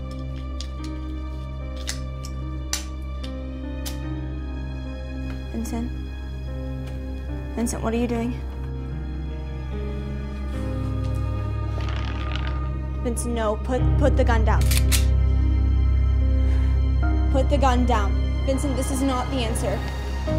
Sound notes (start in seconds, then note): 0.3 ominous music; 14.6 gun cocking; 16.0 music intensifying